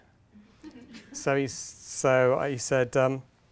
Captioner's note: audience laughing